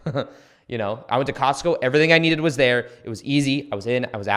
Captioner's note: chuckles